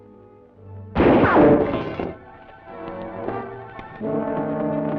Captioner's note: gunshot; intense music